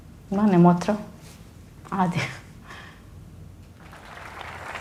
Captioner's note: speaking in foreign language; audience applauding